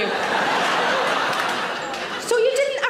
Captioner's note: audience laughs